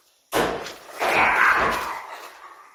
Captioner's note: door banging; unearthly screeching